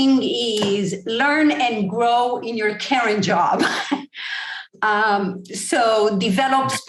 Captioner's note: laugh